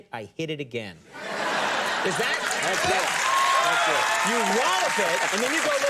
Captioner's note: audience laughs and applauds